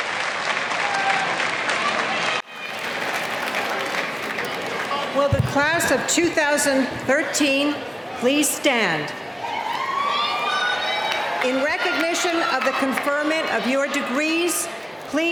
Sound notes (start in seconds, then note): 9.1 cheering